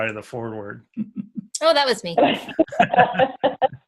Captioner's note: laughs; laugh